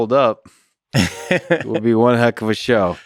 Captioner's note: Tim laughs